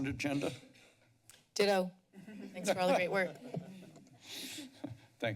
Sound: laughs

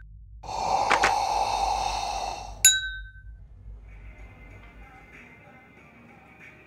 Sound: cup tinking; air whooshing; cup tinking; indistinct background music

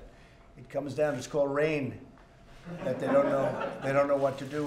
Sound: laughter

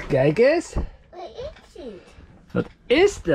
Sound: speaking in Dutch; replies in Dutch; speak in Dutch

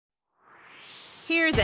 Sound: swoosh

